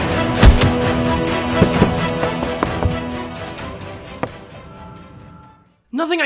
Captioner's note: footfalls